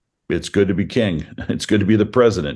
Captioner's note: chuckles